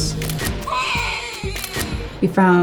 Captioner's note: photo shutter snapping